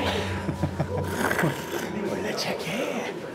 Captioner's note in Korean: 웃음